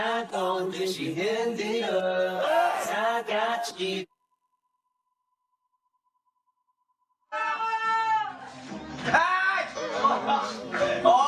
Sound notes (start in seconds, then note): 8.9 screams